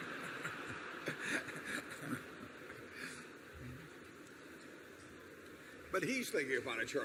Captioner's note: laughter